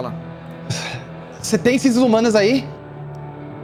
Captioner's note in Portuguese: Suspiro